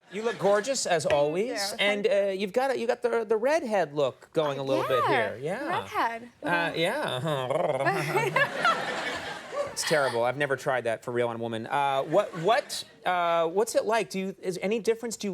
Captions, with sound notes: You look gorgeous as always. Thank you. And you've got the redhead look going a little bit here. Yeah. Yeah, redhead. Yeah. (Conan purring) (audience laughing) (Amy laughing) That's terrible. I've never tried that for real on a woman. What's it like? Is there any difference?